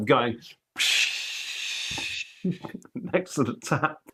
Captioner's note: tap noise